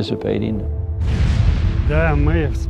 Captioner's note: explosion booms; speaking in foreign language